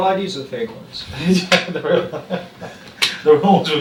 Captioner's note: laughs